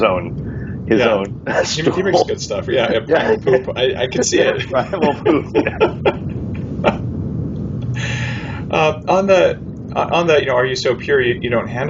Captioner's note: laughing